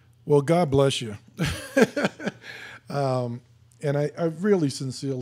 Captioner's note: laughing